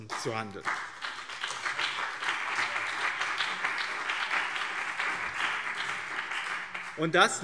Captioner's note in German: Beifall BÜNDNIS 90/DIE GRÜNEN und CDU